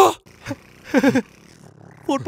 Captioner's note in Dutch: Gelach